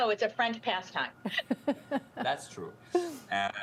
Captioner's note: laughs